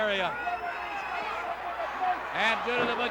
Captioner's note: crowd yelling